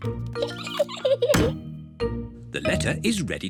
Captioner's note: giggles